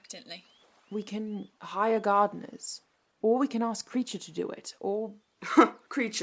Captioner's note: his father lets out a dry laugh